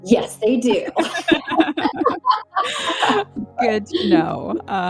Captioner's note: both laugh